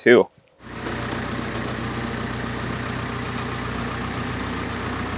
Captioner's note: motor whirring